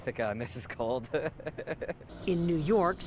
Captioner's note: laughter